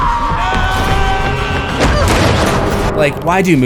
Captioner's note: screams